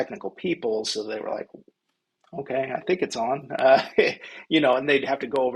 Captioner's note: laughs